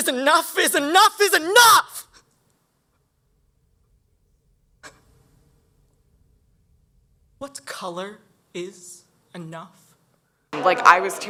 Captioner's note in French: pause